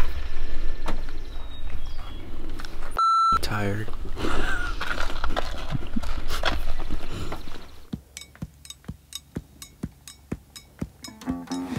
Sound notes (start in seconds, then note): 3.0 beep; 8.0 upbeat music